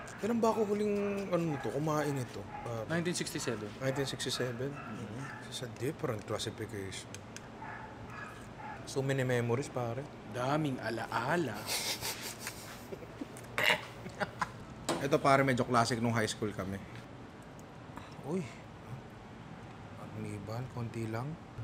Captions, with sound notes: -When did I last have this?? -1967. 1967? It's a different classification. -It brings back so many memories. -A lot of memories.. -[laughs] This is a classic when we were in high school. A bit of arnibal.